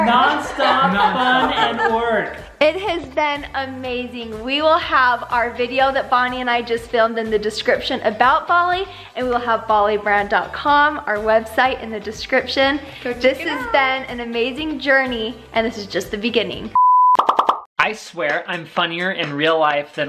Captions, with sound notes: - Non-stop fun and work. - Non-stop. - It has been amazing. We will have our video that Bonnie and I just filmed in the description about Bollie and we'll have bolliebrand.com, our website, in the description. - Go check it out. - This has been an amazing journey and it's just the beginning. (signal tone) (popping) - I swear I'm funnier in real life